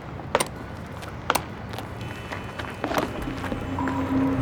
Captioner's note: toolbox clicking